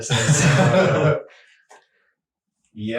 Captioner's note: all laughing